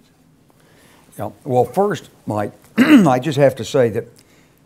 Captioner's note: cough